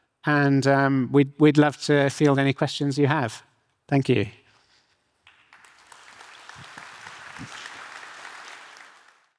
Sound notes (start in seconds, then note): 5.2 audience applauding